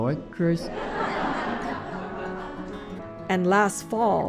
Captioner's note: laughter